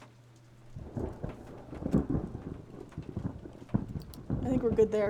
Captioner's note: thunder Rumbling